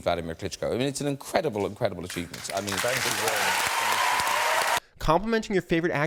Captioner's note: audience applauding